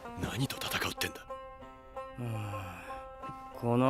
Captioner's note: sighs